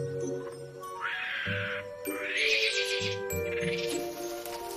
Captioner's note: monkeys screeching